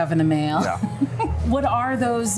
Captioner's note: laughs